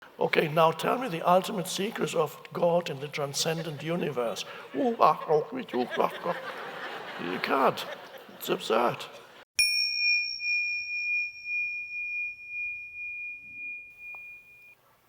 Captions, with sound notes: - Okay, now tell me the ultimate secrets of God and the transcendent universe. (Eckhart mumbling) (audience laughing) You can't, it's absurd. (meditation bell ringing)